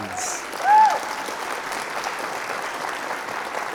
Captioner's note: audience cheers